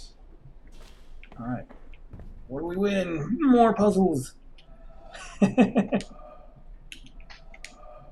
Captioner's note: chuckles